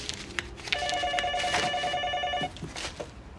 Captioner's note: phone ringing